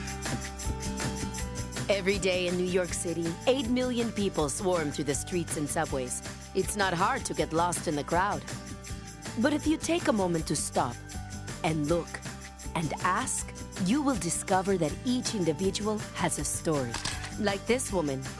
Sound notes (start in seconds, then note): 16.9 camera click